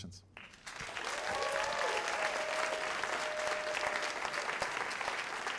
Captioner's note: cheers and applause